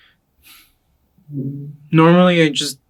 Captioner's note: sighs